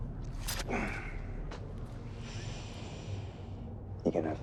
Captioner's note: ship creaking; Sinclair grunts